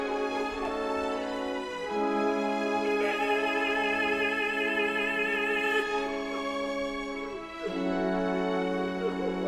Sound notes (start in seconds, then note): 0.7 sad music continues; 5.4 Rodolfo crying continues; 8.5 sad music continues